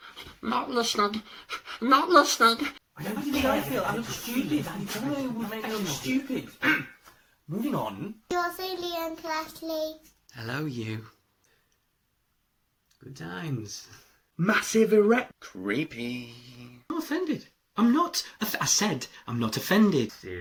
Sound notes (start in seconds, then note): 3.0 arguing; 6.6 clears throat